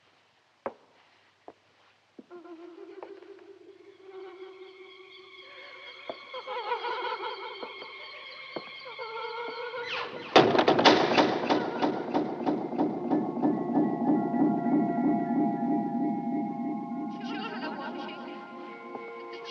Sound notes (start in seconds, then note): 1.8 woman laughing; 10.3 echoing clatter; 16.6 woman's voice echoing